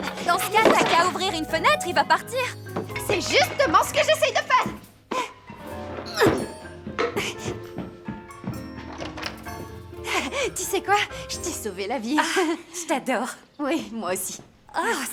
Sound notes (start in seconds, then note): 5.2 panting; 6.0 grunting